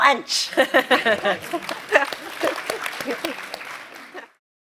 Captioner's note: applause